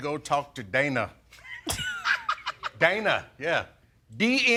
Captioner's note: laughing